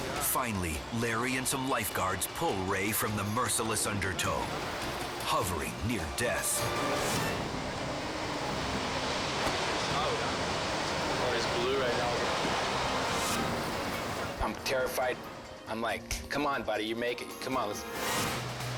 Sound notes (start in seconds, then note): 7.4 waves crashing